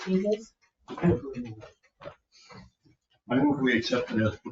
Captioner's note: speaking distantly